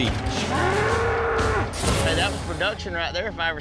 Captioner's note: bull grunting, thud